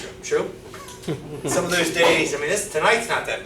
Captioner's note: students chuckling